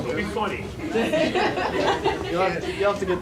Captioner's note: audience laughing